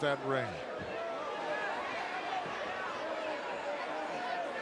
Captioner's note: crowd murmuring